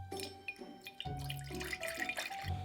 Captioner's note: liquid pouring